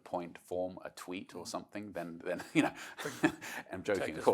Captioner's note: laughs